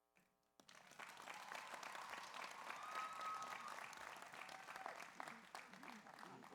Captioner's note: audience applauds; audience cheers